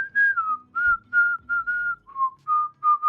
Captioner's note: whistle